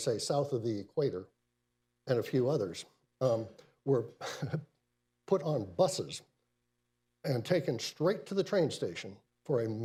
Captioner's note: laughs